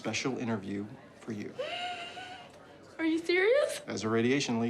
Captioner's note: gasps